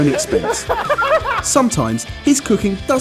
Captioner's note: laughing